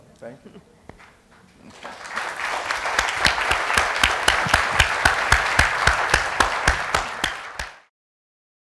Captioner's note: applause